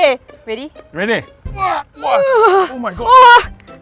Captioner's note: more constipated noises